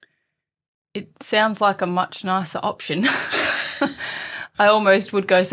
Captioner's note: laughs